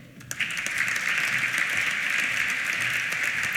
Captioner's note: applause